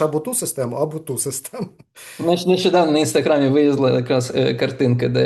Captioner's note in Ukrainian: сміється